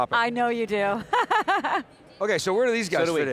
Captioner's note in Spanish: risas